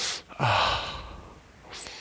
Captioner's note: breathing